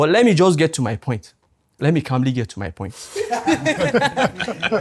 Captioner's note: laughs